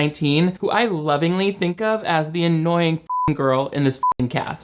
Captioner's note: beep